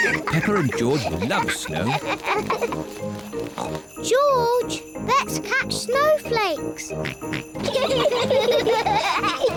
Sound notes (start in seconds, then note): 3.3 snorts; 7.0 both giggle